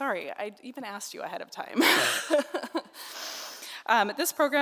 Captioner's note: laughing